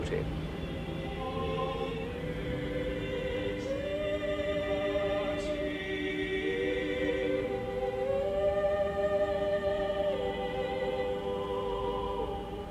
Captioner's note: chants